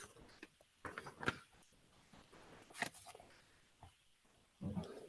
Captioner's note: pages rustling